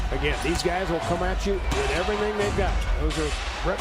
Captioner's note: loud crowd noise